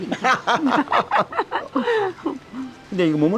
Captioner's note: both laughing